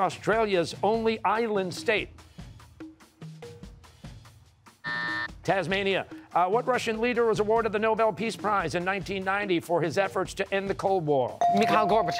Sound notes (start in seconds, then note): 4.8 buzzer